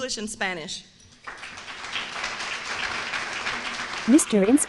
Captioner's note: applause